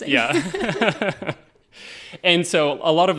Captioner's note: all laughing